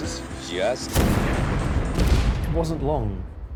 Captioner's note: booming explosions